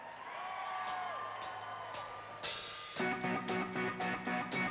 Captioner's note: cheers and applause